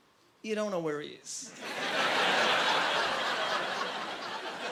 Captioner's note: laughing